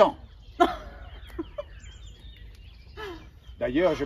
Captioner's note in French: Girl laughs